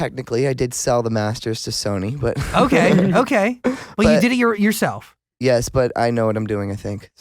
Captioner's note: laughs